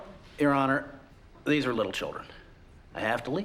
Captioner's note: none